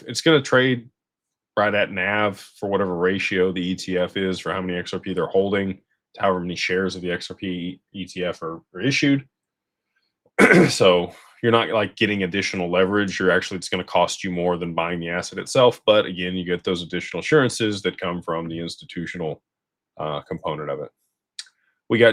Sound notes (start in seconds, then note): 10.4 clears throat